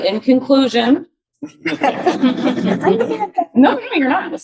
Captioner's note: audience laughing